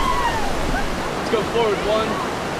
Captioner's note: laughing/hollering